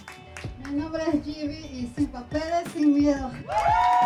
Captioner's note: audience applauding; speaking in foreign language; crowd applauding